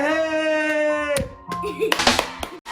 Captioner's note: giggles